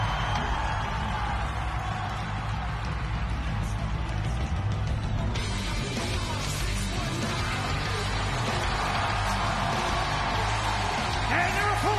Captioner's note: cheers and applause